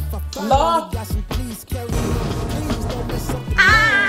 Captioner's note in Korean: 슈웅